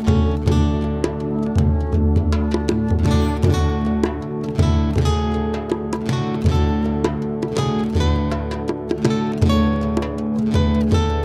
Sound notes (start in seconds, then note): none